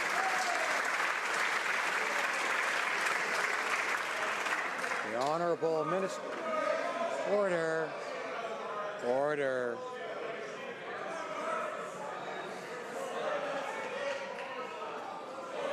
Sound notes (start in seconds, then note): 1.7 some Applause